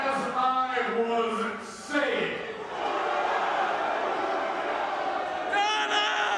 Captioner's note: audience booing